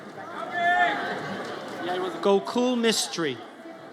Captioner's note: audience cheers